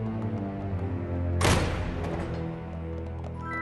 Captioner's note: door closes